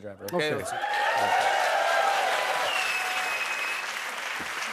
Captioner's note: cheers and applause